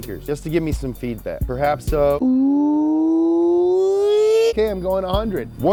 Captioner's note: imitates car engine revving